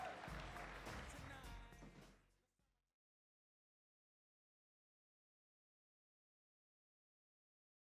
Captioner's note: applause